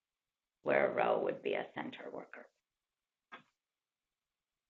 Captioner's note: pause